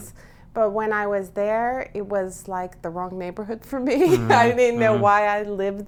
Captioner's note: laughs